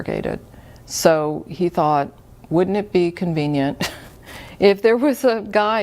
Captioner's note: chuckles